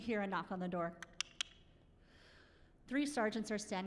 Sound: clicking

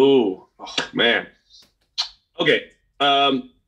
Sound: claps hands

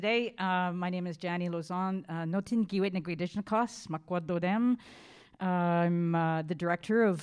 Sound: speaking in Indigenous language

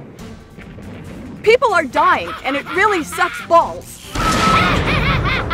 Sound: screams

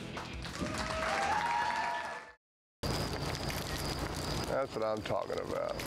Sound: applause and cheers

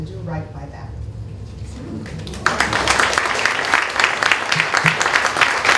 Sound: applause

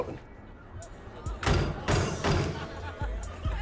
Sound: banging

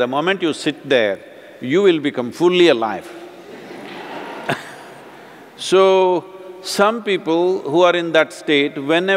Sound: few Laugh

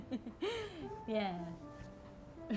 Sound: laughing

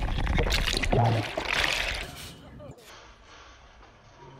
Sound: submerged screaming

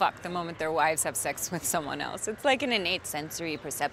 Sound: none

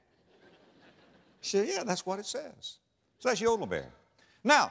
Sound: audience laughter

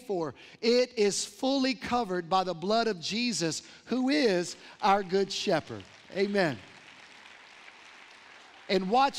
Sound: applause

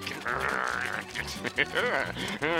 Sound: laughing

